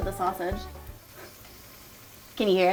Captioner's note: sausage sizzling